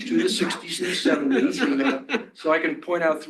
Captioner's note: laughter